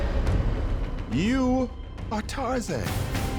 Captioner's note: voiceover; epic music